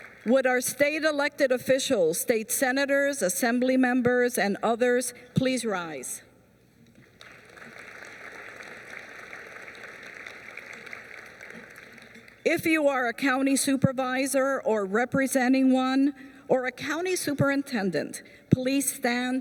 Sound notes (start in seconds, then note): 7.0 applause